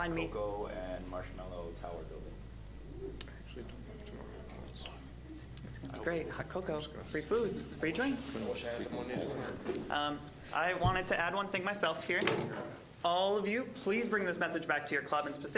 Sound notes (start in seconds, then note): 8.8 general chatter